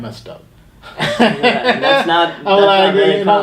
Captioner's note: laughing